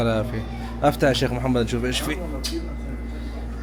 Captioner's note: Arabic